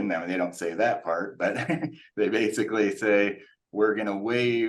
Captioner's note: laughs